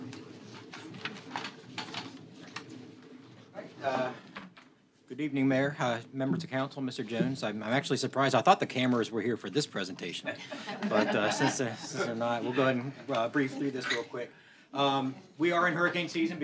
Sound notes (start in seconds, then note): 10.2 laughter